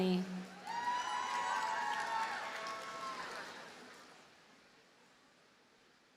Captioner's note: audience cheers and applauds